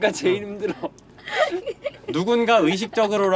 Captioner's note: laughter